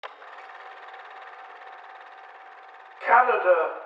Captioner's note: film reel spinning